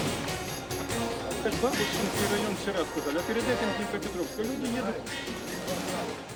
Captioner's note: person speaking foreign language